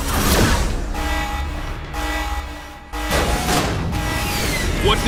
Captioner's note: alarm sounds